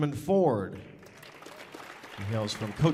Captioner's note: audience applauding